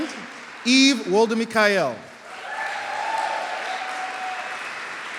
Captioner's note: applause